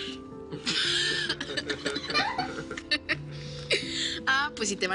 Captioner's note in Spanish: Risas